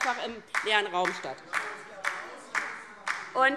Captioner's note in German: Beifall DIE LINKE - Zuruf